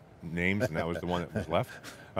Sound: laughs

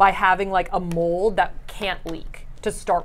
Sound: none

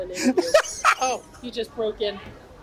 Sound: laughs

